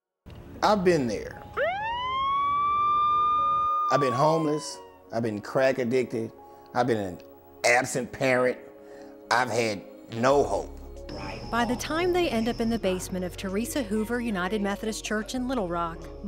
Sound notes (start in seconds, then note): 1.4 police siren